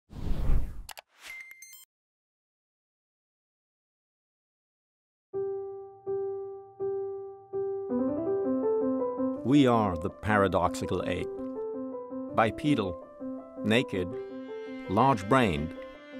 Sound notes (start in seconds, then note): 0.8 mouse clicks; 0.8 soft beeping; 5.4 soft music